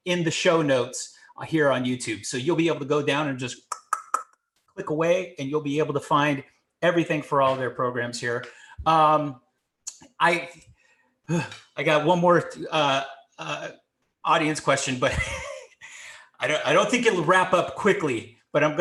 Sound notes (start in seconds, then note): 3.6 clicking tongue; 15.0 chuckles